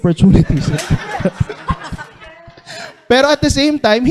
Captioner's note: laughter